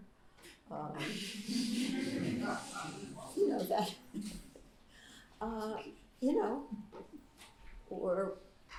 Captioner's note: laughter